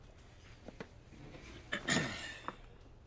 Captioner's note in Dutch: clears his throat